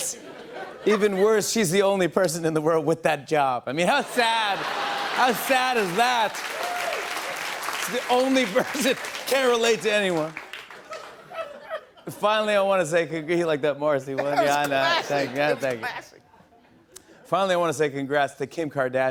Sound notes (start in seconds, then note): 6.2 laughter and applause